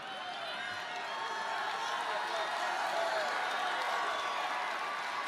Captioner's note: crowd cheers